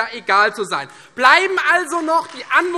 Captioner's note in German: Beifall Freie Demokraten